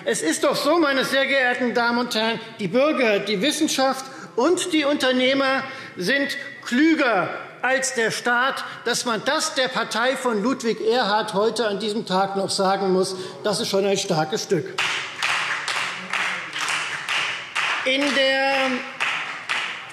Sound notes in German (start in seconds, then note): 14.7 Beifall Freie Demokraten